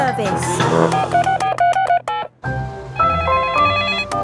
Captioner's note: beeping; phone ringing